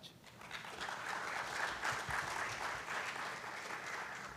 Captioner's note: applause